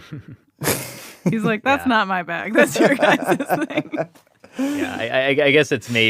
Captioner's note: laughs